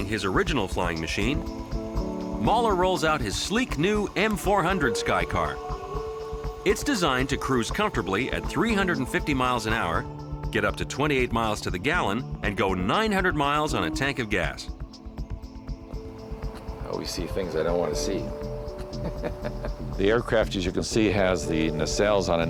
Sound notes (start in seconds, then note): 18.8 laughing